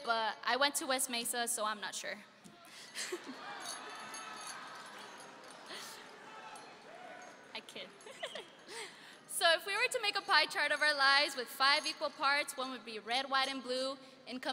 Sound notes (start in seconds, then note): 3.0 audience laughing; 7.8 laughing